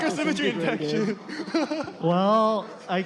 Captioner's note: laughter